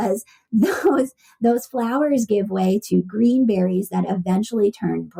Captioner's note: laughs